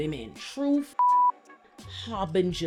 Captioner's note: beep